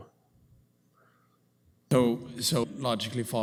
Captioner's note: audio drop